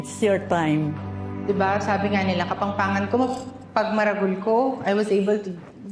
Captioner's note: in Kapampangan